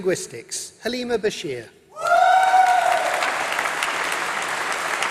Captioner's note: applause